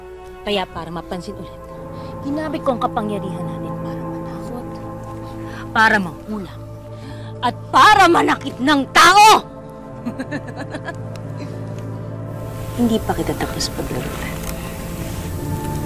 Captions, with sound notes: So to get noticed again, I used our powers to scare, to hex and to hurt people! [Divina laughs] I'm note done playing with you.